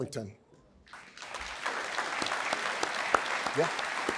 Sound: applause

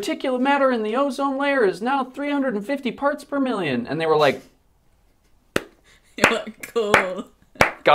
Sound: applause

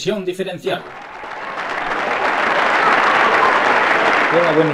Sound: applause

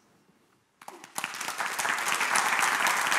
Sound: applause

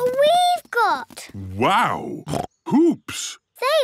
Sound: snorts

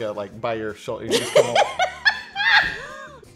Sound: laughing

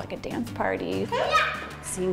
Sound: shouting

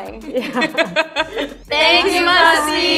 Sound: Myha'la laughs

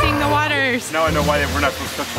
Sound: yelling

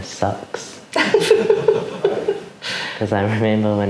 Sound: laughing

